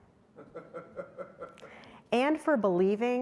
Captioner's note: audience member laughing